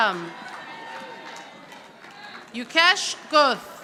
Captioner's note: audience applauding